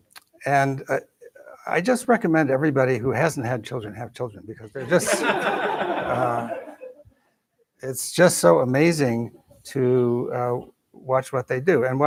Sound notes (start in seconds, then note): 4.8 laughter